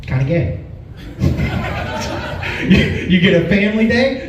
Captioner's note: laughs